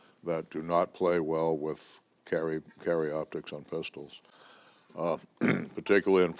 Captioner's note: clears throat